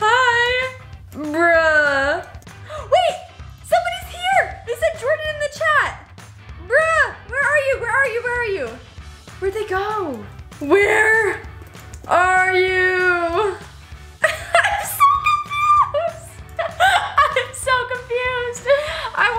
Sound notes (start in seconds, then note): 14.2 laughing